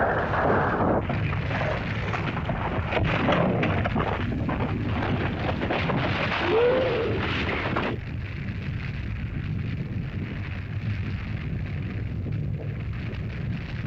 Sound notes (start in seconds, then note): 0.0 rocks bang & clatter; 1.0 earth rumbles; 1.0 fire crackles; 6.4 lizard cries out; 7.9 fire crackles